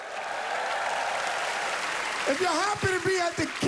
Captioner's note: cheering and applause